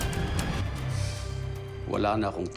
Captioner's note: stirring music playing; exhales deeply